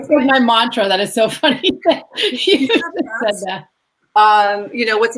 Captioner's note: laughs